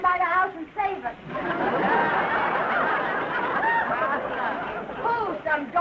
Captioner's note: audience laughing